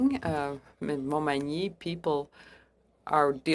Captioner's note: speaking French